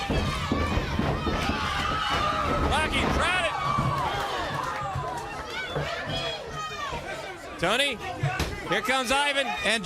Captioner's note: crowd chatter